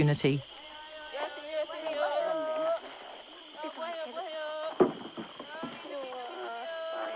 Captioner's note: babysitters shouting in foreign language